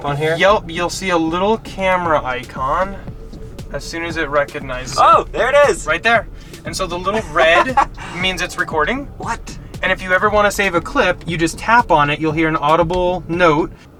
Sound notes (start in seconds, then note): 7.2 laughter